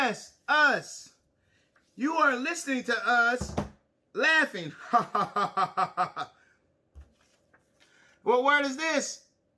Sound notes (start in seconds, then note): 4.9 chuckles